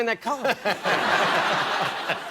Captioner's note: laughter